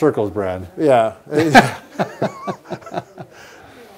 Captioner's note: laughing